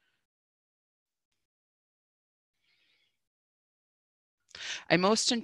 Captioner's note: silence